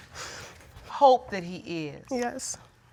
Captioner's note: none